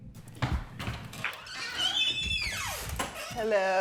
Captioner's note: door squeaking